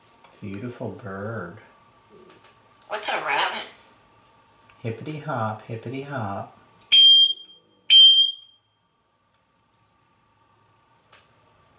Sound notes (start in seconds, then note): 6.9 beep, beep